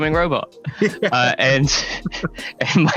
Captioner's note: laughs